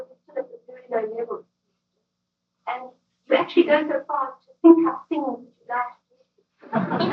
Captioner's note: laughter